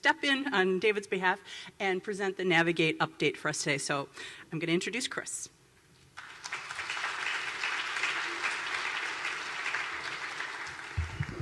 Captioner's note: applause